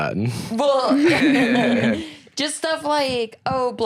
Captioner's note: laughs